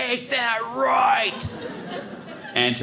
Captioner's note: audience laughing